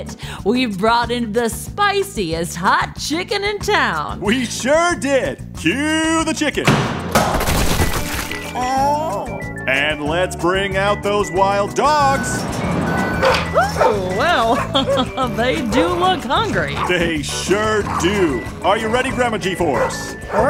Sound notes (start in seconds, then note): 7.3 soundbite of chicken falling onto the floor; 12.2 soundbite of wild dogs barking, growling